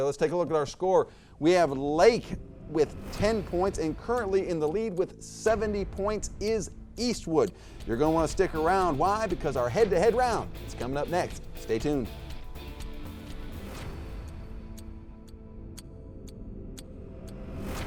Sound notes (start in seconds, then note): 12.7 clock ticking